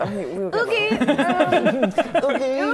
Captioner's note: dubious laughter